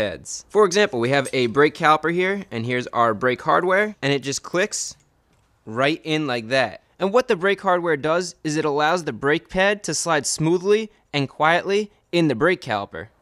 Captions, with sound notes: For example we have a brake caliper here - and here is our brake hardware. And it just clicks (audible click) right in like that. And what the brake hardware does is it allows the brake pad to slide smoothly and quetly in the brake caliper.